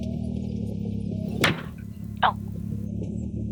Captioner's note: loud bang